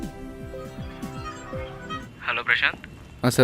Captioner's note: phone ringing